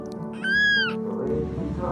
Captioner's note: squeals